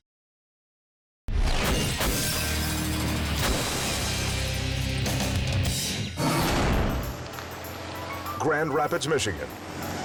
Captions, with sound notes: (squashing sound) Grand Rapids, Michigan.